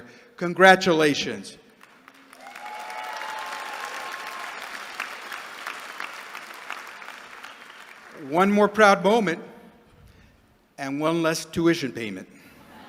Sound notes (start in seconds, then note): 1.7 applause; 12.6 laughter